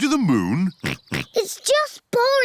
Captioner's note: chuckles; oinks